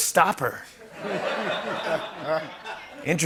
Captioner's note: laughter